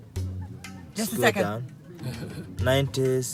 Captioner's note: speaking in foreign language